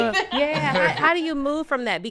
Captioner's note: podcasters laughing